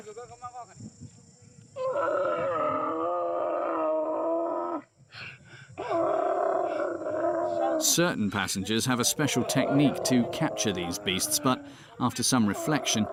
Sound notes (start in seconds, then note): 1.8 camel grunting